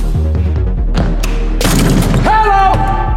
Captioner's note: dunk sound